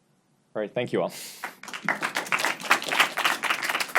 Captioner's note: audience applauds